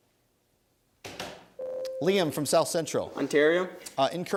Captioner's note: ding